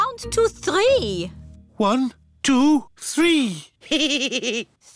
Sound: giggles

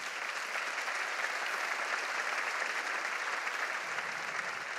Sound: congregation applauding

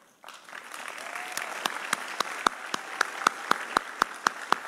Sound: audience applauding

